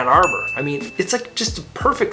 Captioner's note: graphics ding